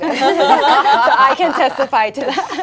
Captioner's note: laughing